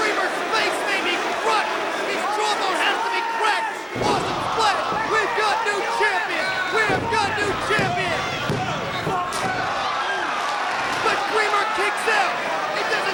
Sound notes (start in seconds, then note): 9.3 hand pounding